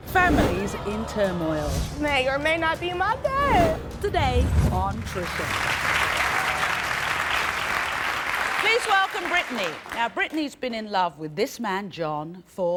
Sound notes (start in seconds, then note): 5.0 applause